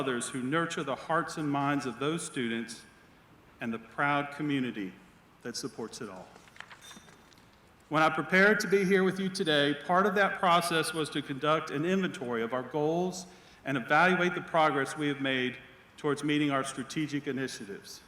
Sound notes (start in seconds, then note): none